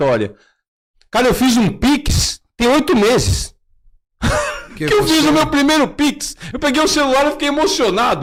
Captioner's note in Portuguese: risadas